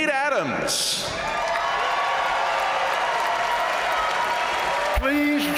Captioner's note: crowd cheering; crowd applauding